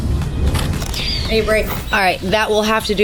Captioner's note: camera clicks